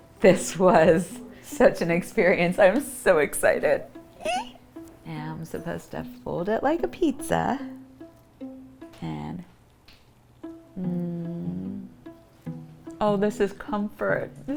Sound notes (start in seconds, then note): 4.1 squeals